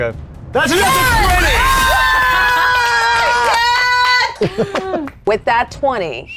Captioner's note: players laughing and cheering